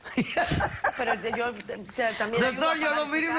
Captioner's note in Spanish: Risas